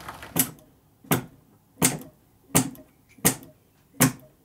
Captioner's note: steady knocking